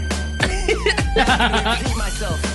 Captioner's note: giggling